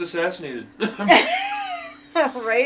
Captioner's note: laughing